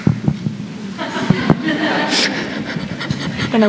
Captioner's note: laughter